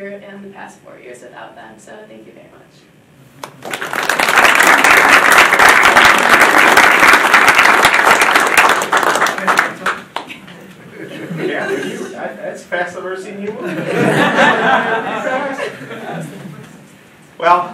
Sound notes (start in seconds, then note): 3.4 audience applauding; 13.6 audience laughing